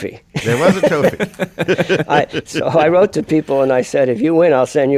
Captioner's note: laughs